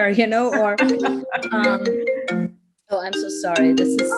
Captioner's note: laughs; phone rings